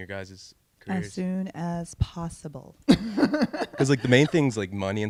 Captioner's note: laughs